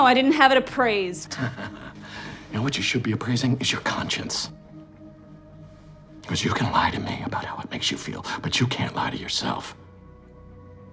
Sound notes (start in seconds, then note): 1.3 Chuck laughs